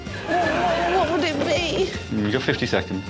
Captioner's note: stutters